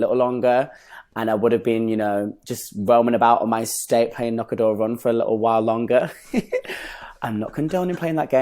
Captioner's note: laughs